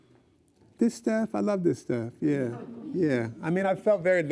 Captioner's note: laughs